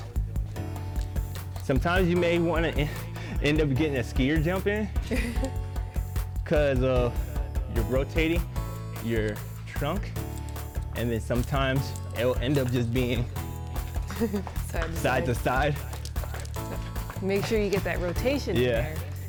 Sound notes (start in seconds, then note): 5.0 giggles